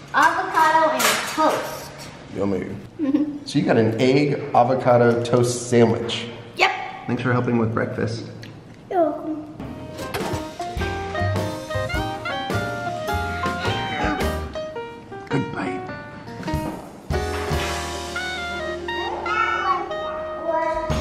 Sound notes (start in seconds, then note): 3.0 giggling; 11.0 jazzy piano music